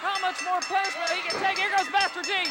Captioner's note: bell dinging